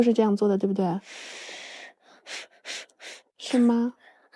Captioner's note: blowing air